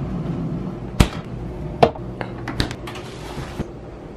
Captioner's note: doors closing